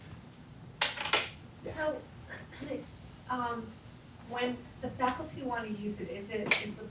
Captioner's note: cough